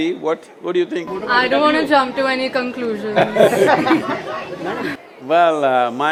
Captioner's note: Sadhguru laughs